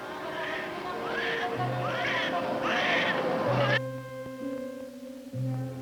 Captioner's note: somber music; babies crying